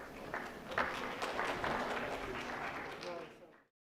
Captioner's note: audience applauds